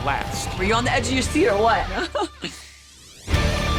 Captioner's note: laughs